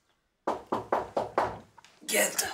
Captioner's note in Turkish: Kapı çalar